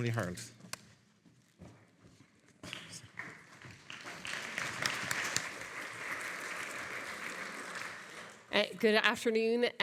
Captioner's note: audience applauding